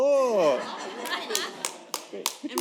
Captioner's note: laughter